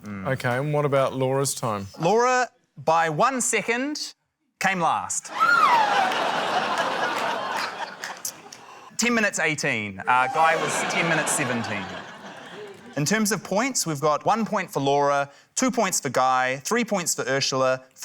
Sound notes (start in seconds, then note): 5.3 laughter; 5.3 squeals